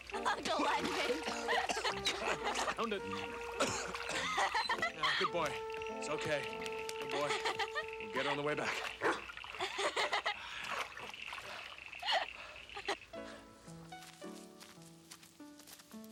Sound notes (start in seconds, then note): 8.9 Nero barks; 13.1 pleasant music